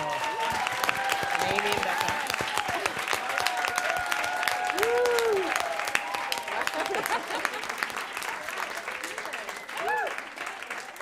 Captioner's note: applause